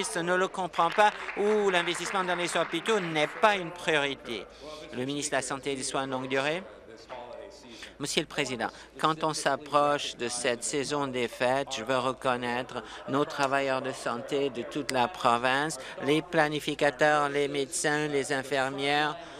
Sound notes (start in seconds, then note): 4.0 applause